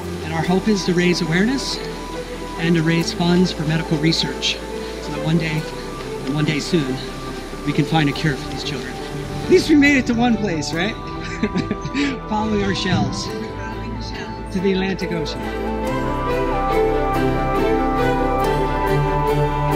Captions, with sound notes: and our hope is to raise awareness and to raise funds for medical research so that one day and one day soon we can find a cure for these children. At least we made it to one place, right? (Laughs) Following our shells ... to the Atlantic Ocean